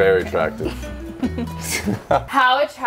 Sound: giggles

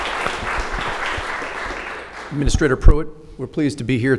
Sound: applause

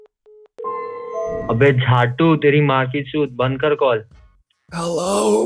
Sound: swearing in Hindi

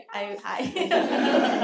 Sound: laughter

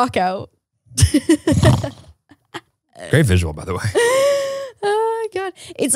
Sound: snores

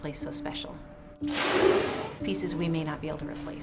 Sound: whale expelling air

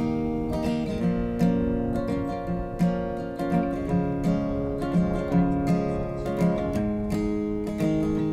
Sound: sound of the wind

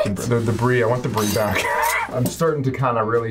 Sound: laughs

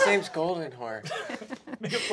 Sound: giggling

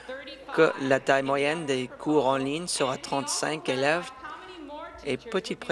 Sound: none

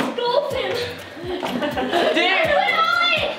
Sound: laughing

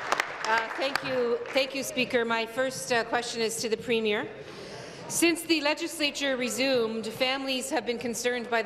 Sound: applause

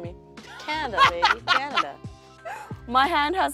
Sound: laughing

